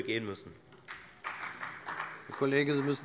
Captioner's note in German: Beifall bei der FDP